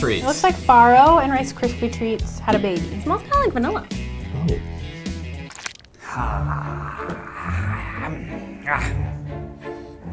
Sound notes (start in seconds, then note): 6.0 man growls softly